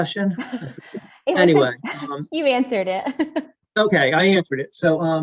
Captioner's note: laughs